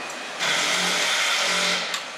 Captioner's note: loud milling